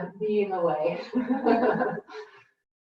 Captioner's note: laughs